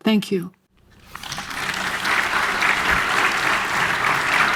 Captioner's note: audience applauds